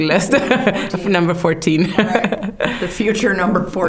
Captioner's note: laughing